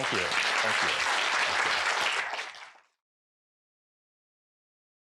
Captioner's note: applause